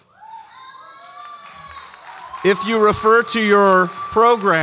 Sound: audience cheers

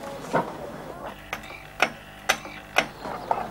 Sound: clock ticking

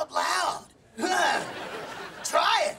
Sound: laughing

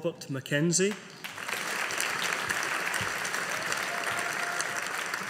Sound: audience applauding

